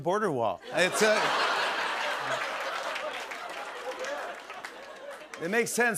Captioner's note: laughter